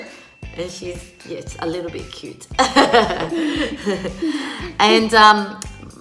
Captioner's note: laughing